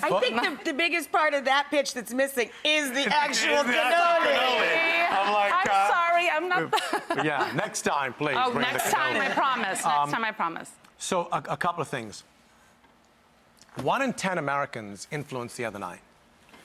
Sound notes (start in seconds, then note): 4.2 everyone laughs; 6.6 laughs